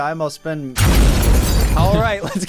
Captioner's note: explosion